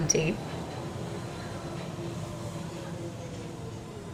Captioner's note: train whirring